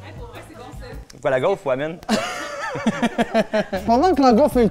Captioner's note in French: rires